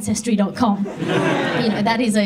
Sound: audience laughs

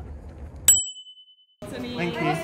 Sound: ding

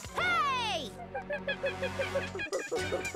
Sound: monkey cries

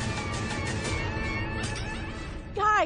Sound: whirling; breaking glass

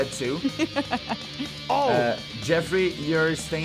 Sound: laughs

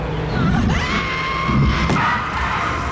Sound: screaming; ominous music

